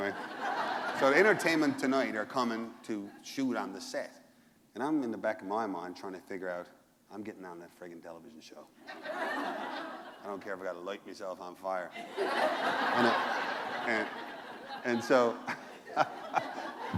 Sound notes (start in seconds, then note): 8.8 laughter; 16.7 laughter